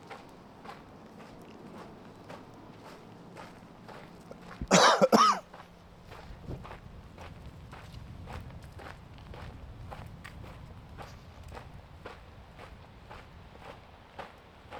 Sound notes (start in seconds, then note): 4.6 cough; 6.1 wind